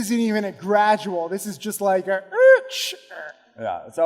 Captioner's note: screeches